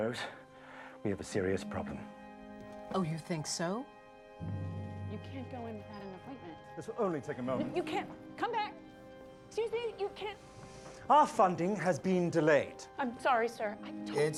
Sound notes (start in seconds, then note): none